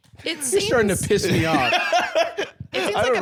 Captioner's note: laughing